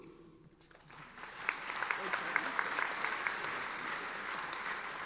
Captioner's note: audience applauding